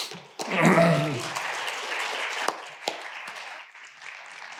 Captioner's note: audience applauding